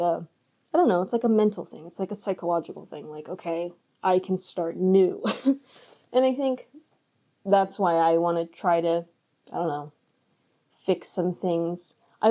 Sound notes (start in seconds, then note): 5.3 chuckles